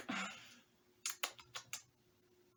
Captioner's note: sigh